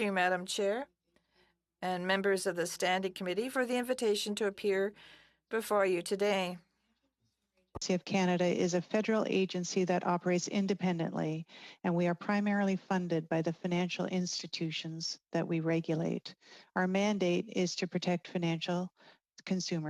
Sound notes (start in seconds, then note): 3.3 speaking french